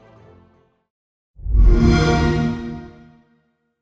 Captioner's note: xbox sound